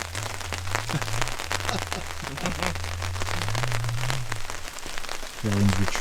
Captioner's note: rain pattering; group laughing